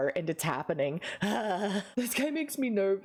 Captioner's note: groans nervously